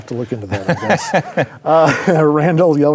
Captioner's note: laughs